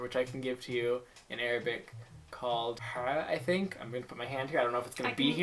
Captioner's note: hah